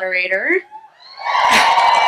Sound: crowd cheering

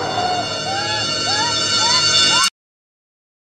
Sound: crying

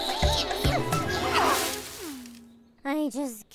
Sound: leaves rustle

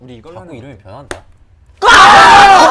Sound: slap

